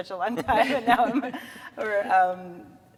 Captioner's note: all laughing